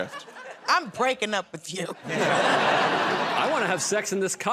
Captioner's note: laughter